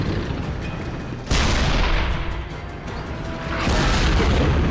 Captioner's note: 88 gun firing; shell explodes